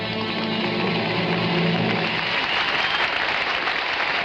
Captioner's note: audience applauding